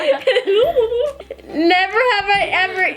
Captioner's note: laughing